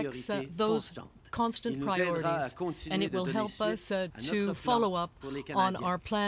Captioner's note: speaking french